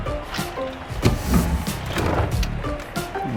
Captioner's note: chair scrapes